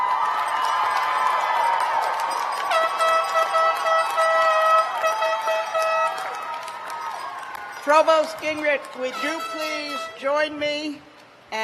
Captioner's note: cheers and applause